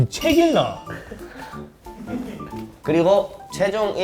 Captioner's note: self-aware laugh